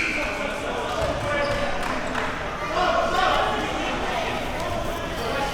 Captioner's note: audience chattering and yelling